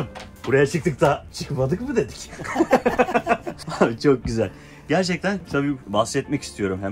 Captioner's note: laughs